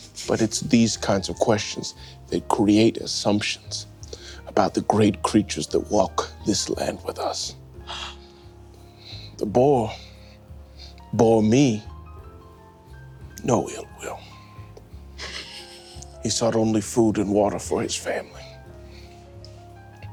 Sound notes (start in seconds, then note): 7.8 gasps; 14.6 gentle piano music